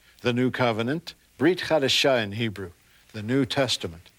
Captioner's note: speaking in Hebrew